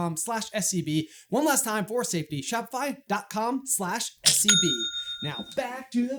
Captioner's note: cha-ching!